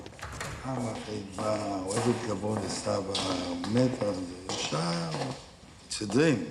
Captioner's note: immanuel speaks hebrew